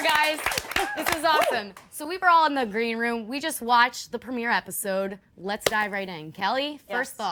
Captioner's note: cheers and applause